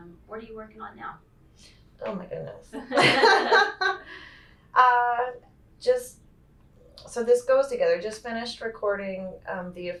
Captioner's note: laughs